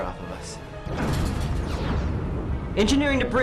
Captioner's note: explosion